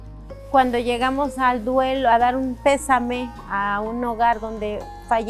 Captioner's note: speaking foreign language